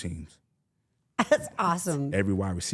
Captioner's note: laughs